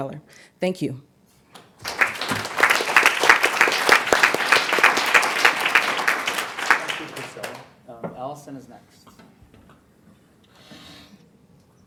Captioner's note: applause